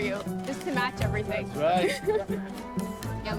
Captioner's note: laughs